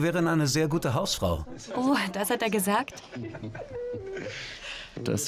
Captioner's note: Charles laughs loudly